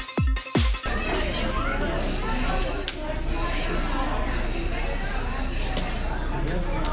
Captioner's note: dance music; people talk in the background